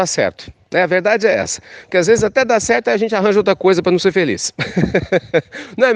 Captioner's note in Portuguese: risos